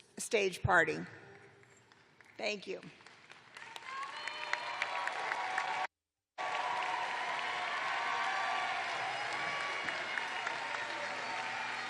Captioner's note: cheers and applause